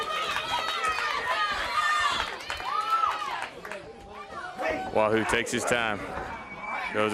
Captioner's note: crowd cheering